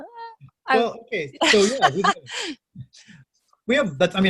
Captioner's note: laughing